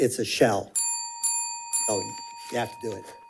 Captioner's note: bell dings